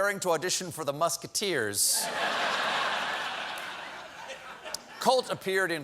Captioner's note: laughter